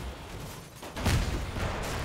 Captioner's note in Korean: 폭발음